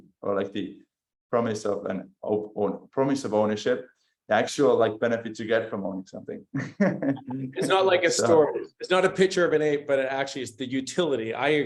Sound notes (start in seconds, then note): 6.6 laughs